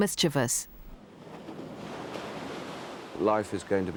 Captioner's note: waves crashing